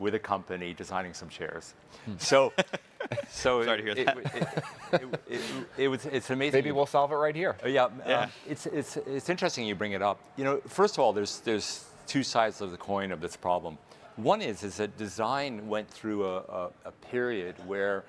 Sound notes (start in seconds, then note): 3.8 chuckling